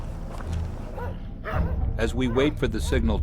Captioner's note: dogs barking